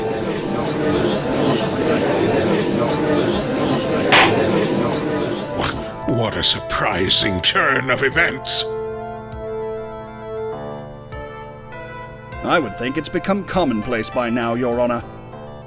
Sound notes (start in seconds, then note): 0.0 gallery chattering; 4.1 gavel slams!